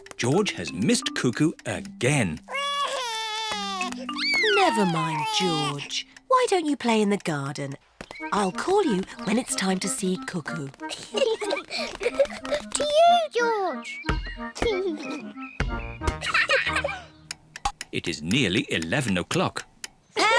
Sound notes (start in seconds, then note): 2.4 sobs; 10.8 both laugh